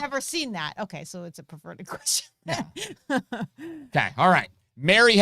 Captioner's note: laughs